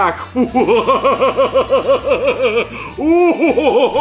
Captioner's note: laughs